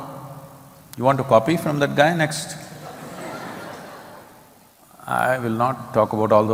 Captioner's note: laughter